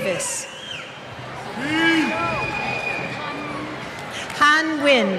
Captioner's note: cheers